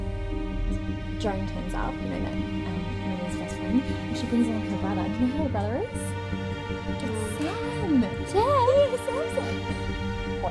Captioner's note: nurses chatting